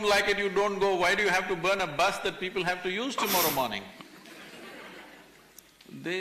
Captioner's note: few laugh